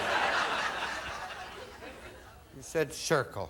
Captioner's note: audience laughing